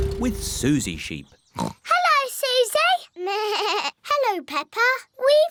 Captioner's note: oinks; bleats